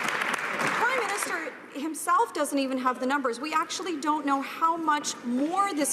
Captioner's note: some Applause